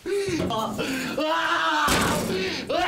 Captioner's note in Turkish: Bağırıyor